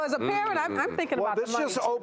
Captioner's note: laughs